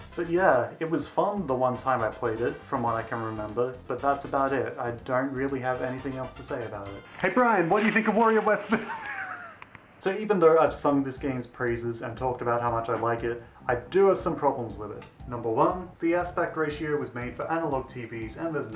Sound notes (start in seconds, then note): 8.6 laughter